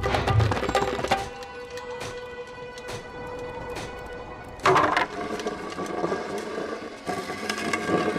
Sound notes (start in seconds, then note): 0.5 clacking, clattering